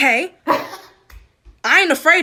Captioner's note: laughing